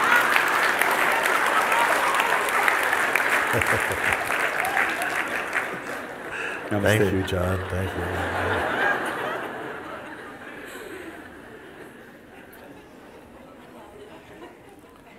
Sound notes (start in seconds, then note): 0.2 Lachen und Applaus; 10.0 Lachen